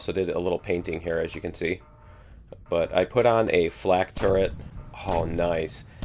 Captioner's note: flak turret firing